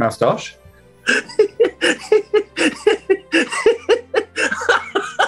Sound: giggling; laughing

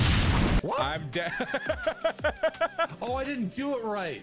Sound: laughter

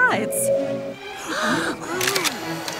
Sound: gasps

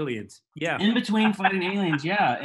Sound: laughs

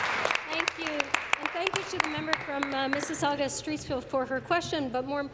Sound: applause

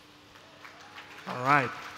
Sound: applause

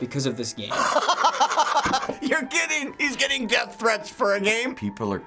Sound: laughs

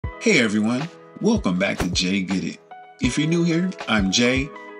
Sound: enthusiastically

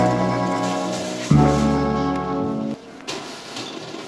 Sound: trash rustling

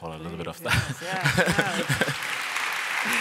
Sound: applause

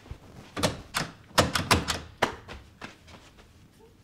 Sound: silence; door handle struggles to open

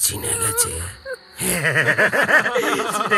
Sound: laughs

